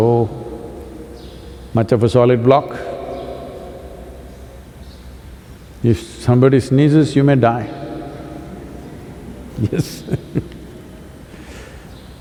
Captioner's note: laughs